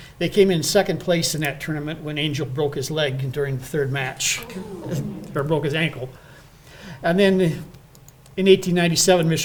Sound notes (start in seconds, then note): 4.2 crowd groaning